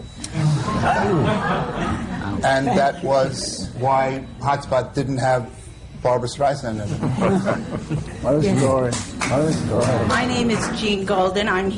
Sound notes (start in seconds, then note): 0.0 laughter; 6.8 laughter